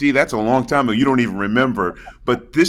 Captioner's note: laughs